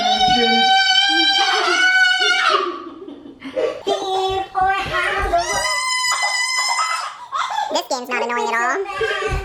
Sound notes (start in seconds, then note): 3.5 laughing